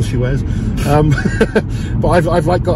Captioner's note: laughs